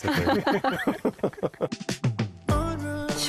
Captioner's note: laughs